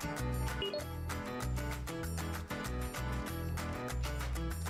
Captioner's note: lively music; computer dings